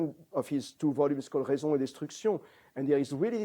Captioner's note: non-english